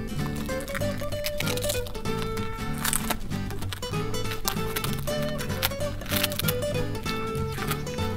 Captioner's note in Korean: 바스러지는 소리